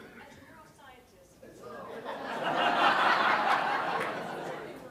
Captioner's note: laugh